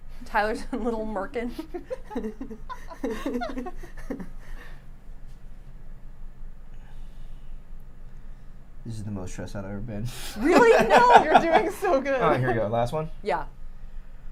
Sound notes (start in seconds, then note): 1.4 giggles; 10.4 laughs